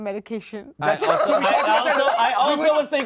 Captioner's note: all laugh